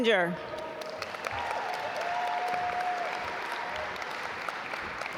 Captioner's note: audience applaud